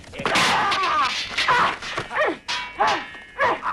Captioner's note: sword slices; swords clanging; both grunting